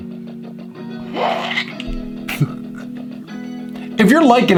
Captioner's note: giggles